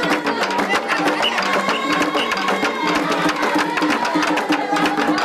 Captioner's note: whistle blowing